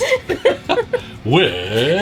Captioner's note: laughs